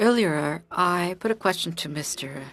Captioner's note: speaking French